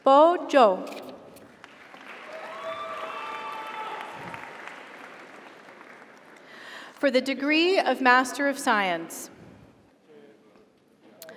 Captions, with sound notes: Bo Zhou. (audience applauds) (audience cheers) For the Degree of Master of Science,